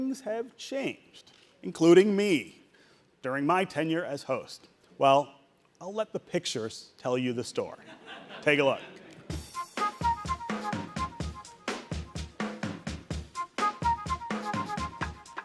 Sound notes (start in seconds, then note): 7.8 audience laughing; 9.3 jazzy music